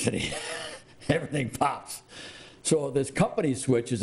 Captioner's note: chuckling